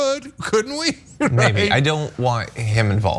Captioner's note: laugh